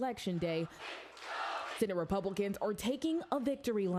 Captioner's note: crowd chanting